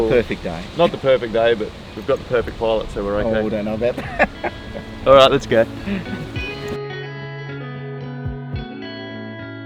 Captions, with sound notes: - It's not the perfect day. - Not the perfect day, but we've got the perfect pilot so we're okay. - Oh I don't know about that. (laughs) - All right let's go. (mellow music)